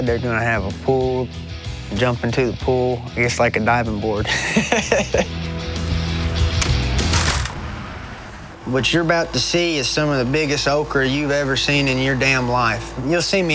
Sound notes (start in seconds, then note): 4.2 laughing; 6.5 door clanks open